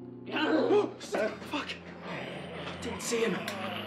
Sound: gasping; snarling

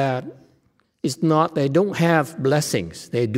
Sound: none

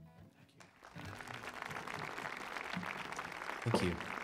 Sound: audience clapping

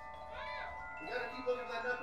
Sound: girl yells

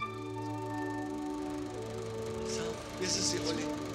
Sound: film reel rolls

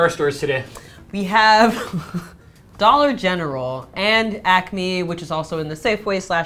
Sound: laughs

